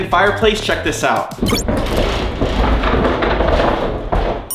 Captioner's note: door creaking